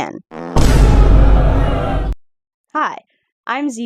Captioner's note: compilation of hateful sound effects